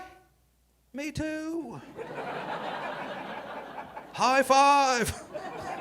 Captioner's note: audience laughing